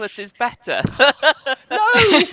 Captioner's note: laughter